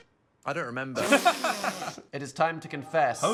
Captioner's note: Dan and Phil laugh